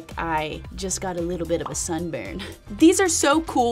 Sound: chuckling

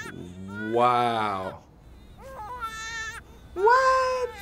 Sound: baby cries

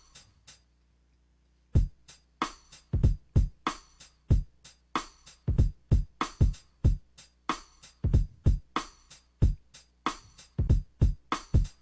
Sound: finger Drumming while recording a sequence, good take

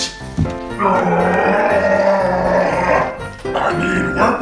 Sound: animal screaming

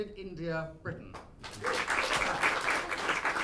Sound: applause

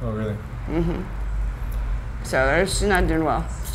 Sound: hums in agreement

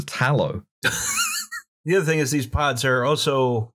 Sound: laughter

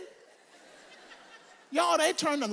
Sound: audience laughs

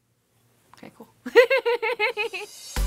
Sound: laughs; upbeat music playing

